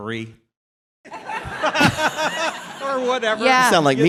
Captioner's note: laughing